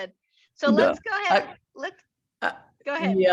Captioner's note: chuckles